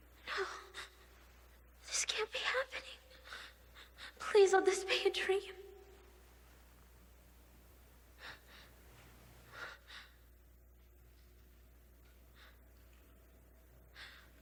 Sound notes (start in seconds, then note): 8.3 Marlee gasping